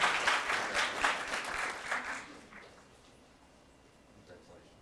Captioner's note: applause